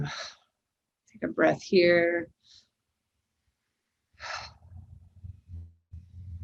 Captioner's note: breathing deeply